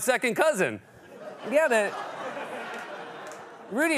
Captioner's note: laughter